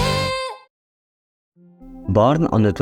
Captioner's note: awkward pause